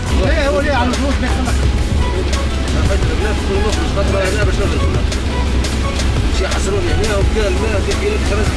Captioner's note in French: Dialogue en Arabe